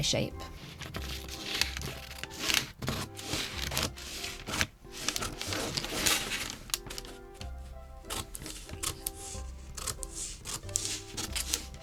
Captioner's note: scissors snipping and paper rustling